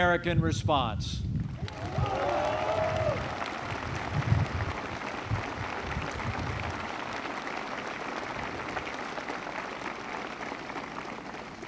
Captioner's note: applause